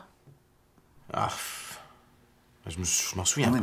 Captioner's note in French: soupir